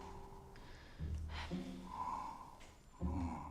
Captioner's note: snoring softly